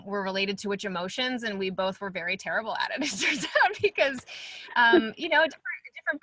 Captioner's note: laugh